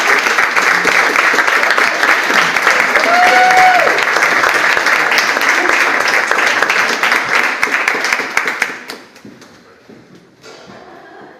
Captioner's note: audience applauds